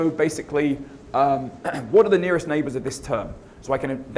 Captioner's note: cough